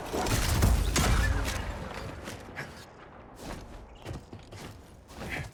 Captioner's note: gunshots